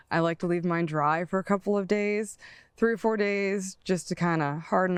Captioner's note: none